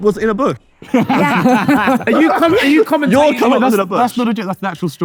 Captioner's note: group laughing